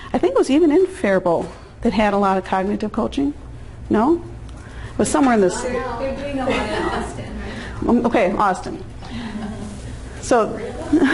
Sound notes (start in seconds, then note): 5.4 chatter; 10.7 laughs